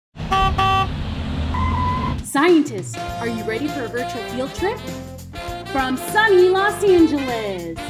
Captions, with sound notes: [Bus honking] Scientists, are you ready for a virtual field trip from sunny Los Angeles?